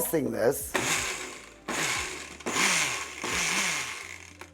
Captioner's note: blender buzzing